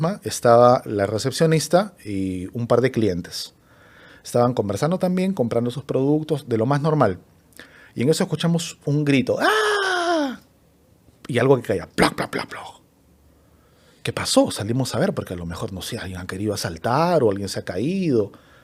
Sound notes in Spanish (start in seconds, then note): 9.4 grito ahogado